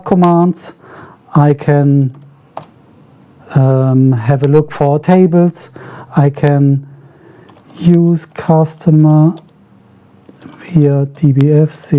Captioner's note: typing